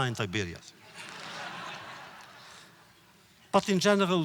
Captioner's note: audience laughter